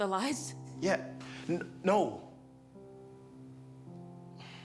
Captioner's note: sighs